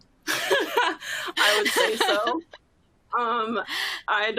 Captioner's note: laughs